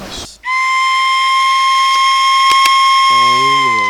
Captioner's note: whistling mimicking a coyote howling